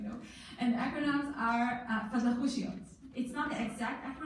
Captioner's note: in foreign language